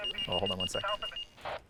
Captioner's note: phone ringing